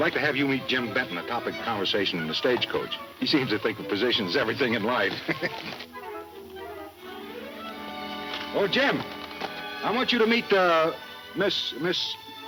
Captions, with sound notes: the topic of conversation in the stage coach. He seems to think a position's everything in life. (laughing) Oh Jim, I want you to meet Miss, Miss... - Miss Morgan. - Miss Morgan.